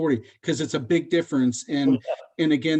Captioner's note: laughs